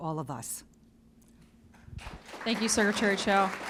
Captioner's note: applause